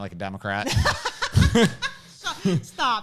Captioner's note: laughs